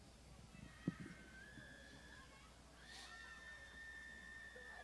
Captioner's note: crowd shouting